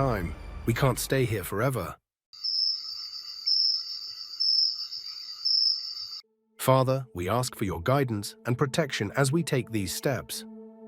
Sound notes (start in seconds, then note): 2.3 crickets chirping